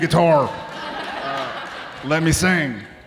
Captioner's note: audience laughing